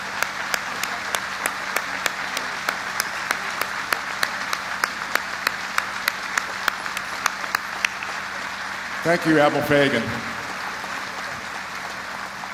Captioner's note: applause